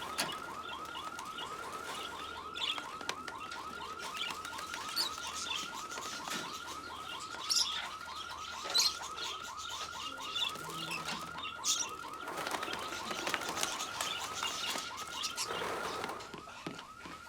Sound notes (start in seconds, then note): 0.3 birds chirping; 5.3 alarm blaring; 8.6 wings fluttering